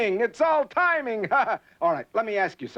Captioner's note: laughs